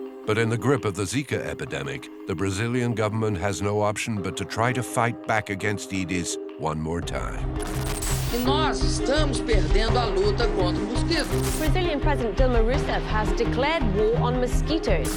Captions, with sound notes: but in the grip of the Zika epidemic, the Brazilian government has no option but to try to fight back against Aedes one more time. (Dilma speaks in foreign language) - Brazilian President, Dilma Rousseff, has declared war on mosquitoes.